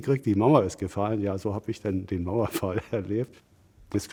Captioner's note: laughs